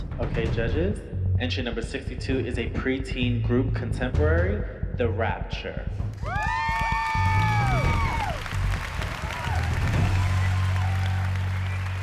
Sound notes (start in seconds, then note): 6.2 cheering; 8.1 applause